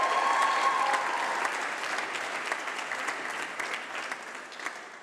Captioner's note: applause